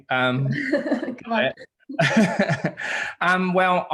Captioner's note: laughing